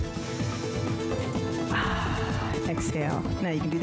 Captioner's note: sighs